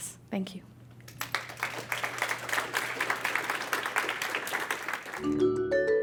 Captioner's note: applause